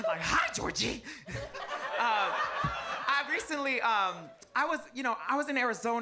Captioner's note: audience laughs